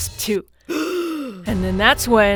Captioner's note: gasp